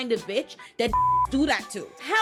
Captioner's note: beep